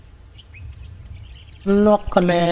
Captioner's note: birds singing